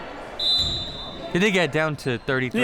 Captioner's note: whistle blowing